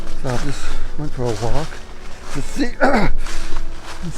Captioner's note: grunts